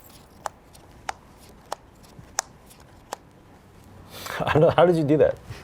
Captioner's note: cards flicking